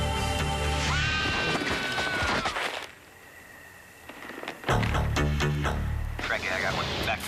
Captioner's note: scrms